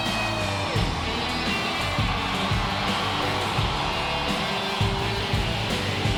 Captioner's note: crowd cheering; upbeat music continues